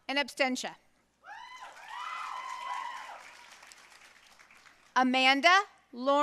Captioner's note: audience cheering and applauding